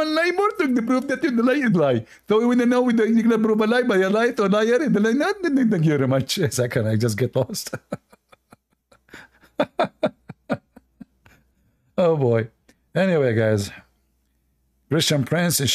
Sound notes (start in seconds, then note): 7.4 Ketawa